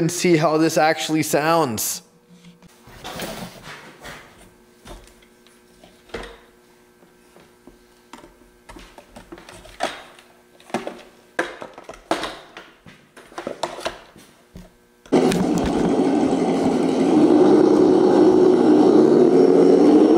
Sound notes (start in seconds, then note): 15.4 engine rumbling